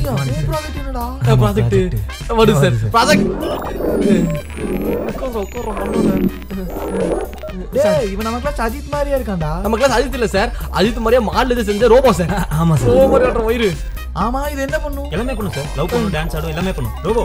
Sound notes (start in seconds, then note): 2.4 robotic Sounds